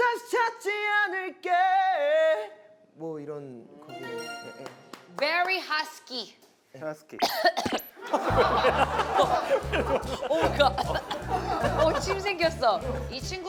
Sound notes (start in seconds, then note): 7.2 coughs